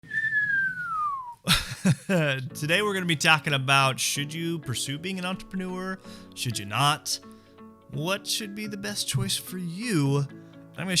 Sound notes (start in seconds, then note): 0.0 whistling; 1.5 laughing